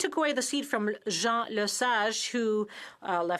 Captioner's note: speaking French